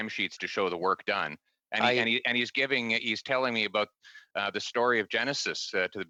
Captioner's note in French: voix de l'interprète